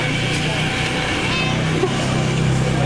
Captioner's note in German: Katze meow